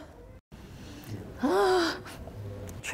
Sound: gasping

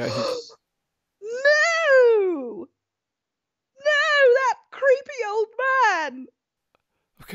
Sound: gasping

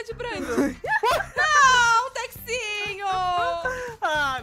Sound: laughing relieved; laughter

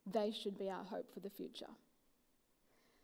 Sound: none

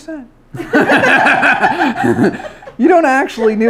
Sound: everyone laughs

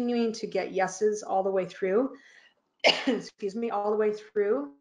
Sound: sneezing

